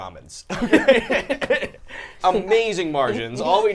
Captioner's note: all laughing